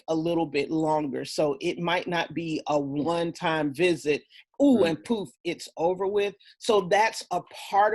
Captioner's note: poof